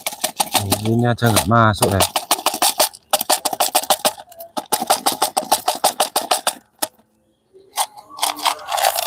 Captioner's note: glass flakes shaken